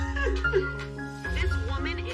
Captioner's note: laughing